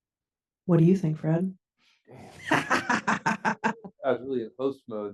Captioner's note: laughs